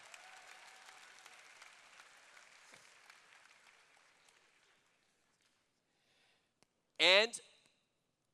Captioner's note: applause